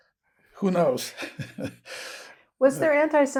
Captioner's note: laughing